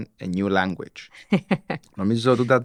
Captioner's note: she laughs